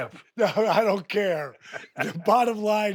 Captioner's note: Steve laughs